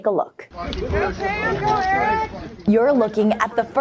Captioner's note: people shouting